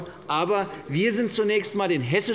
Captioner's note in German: none